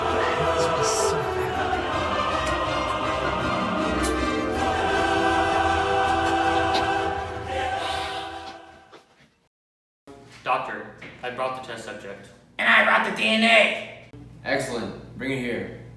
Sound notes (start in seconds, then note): 7.6 ryan expresses a sigh of relief